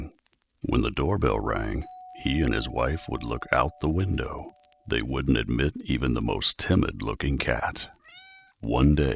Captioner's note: doorbell ringing; meow